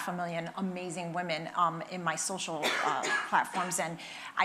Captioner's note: attendee coughing